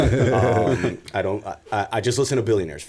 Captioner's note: laughter